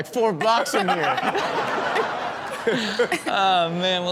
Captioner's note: audience laughs